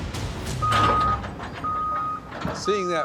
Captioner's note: forklift beeping